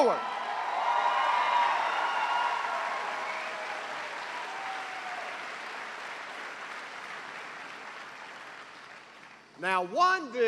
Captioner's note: cheers and applause